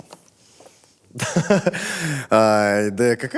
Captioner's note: laughs